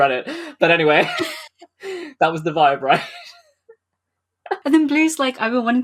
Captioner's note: laughs